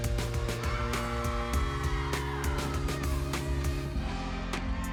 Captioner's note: audience cheering